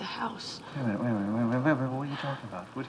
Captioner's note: stuttering